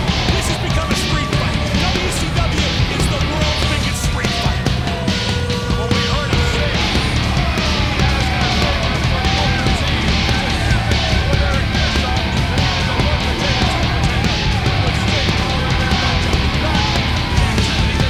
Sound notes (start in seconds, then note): 8.6 commentators chattering; 8.6 hard rock music